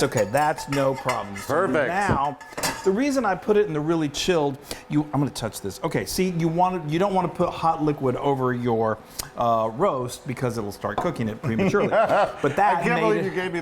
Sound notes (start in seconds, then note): 9.0 clicks tongue; 11.5 laughing